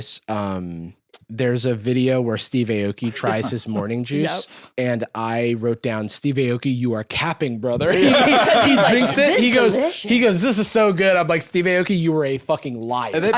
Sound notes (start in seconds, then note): 7.9 laughs